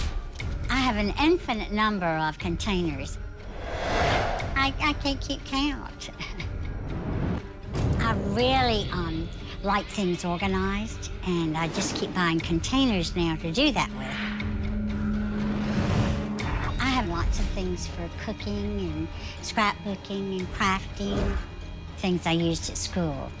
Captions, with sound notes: I have an infinite number of containers. I can't keep count. [Laugh] I really like things organized, and I just keep buying containers now to do that with. I have lots of things for cooking and scrapbooking and crafting, things I used at school.